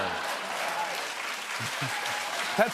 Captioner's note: cheers and applause